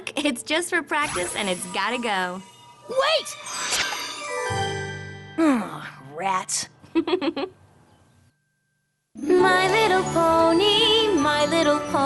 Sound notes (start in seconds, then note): 3.2 tinkling; 6.9 chuckles